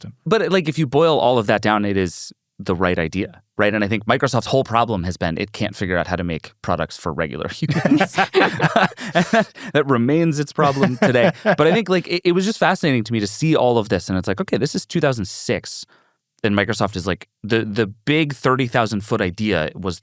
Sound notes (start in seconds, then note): 7.7 everyone laughing